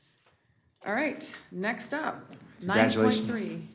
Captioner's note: chorus of ayes